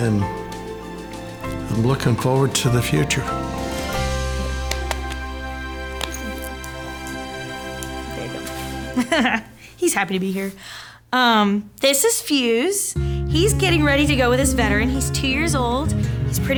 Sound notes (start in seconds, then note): 4.1 bright music; 4.4 hands slapping